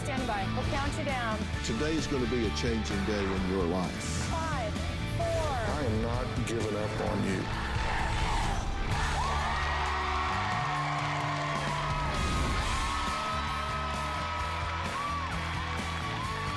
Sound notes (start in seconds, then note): 7.3 crowd chanting "dr. phil!"; 12.2 cheering and applause